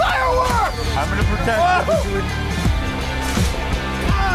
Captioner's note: cheering